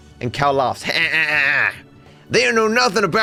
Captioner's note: Imitates Cal’s laugh